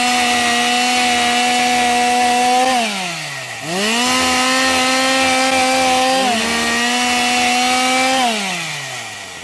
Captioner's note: chainsaw sound